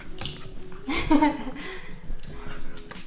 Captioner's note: laughs